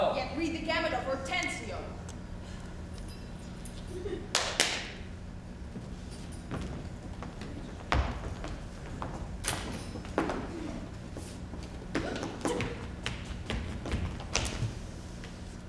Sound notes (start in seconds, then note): 4.3 Bianca claps